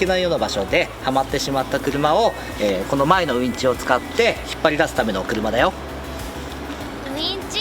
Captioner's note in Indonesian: winch